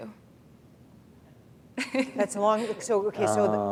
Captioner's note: chuckle